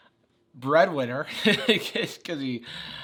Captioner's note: laughs